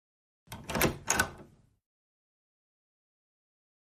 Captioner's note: door opens